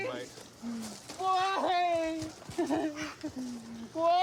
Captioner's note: sobs